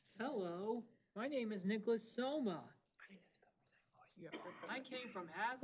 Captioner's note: whispers